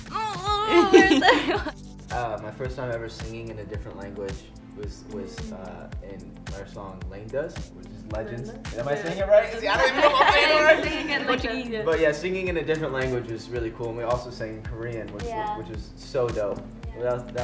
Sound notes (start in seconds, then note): 0.2 laughs; 9.0 chattering